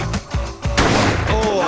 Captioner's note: gunshot